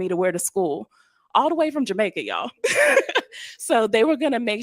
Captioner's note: laughs